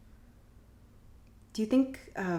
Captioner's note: none